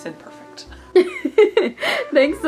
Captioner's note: laughing